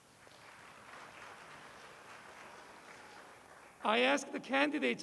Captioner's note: applause